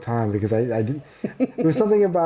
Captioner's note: laughing